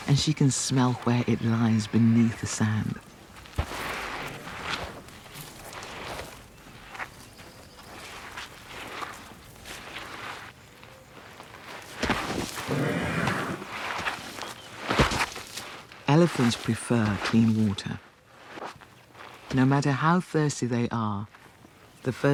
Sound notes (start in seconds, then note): 12.6 chuffs